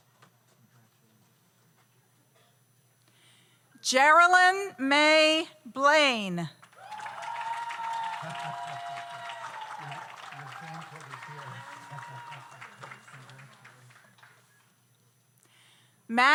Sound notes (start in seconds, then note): 6.7 audience applauds; 6.7 audience cheers